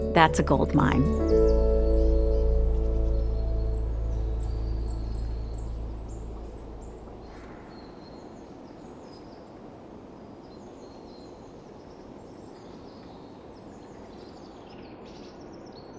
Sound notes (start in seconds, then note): 4.3 birds chirping